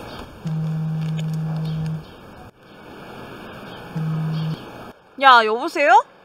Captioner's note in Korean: 휴대폰 진동